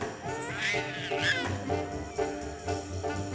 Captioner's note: baby crying